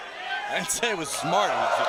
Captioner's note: crowd chatter